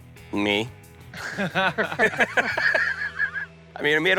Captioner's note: laughter